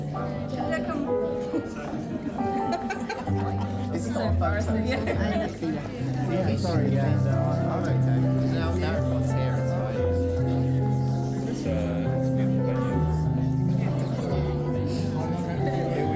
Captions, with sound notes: (piano music) (laughing) This is so embarrassing. I'm sorry, yeah. No, that everyone's here, it's fine. (piano music)